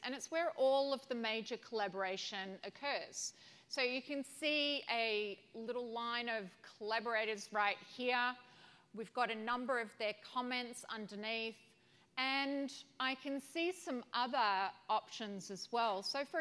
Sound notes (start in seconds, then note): none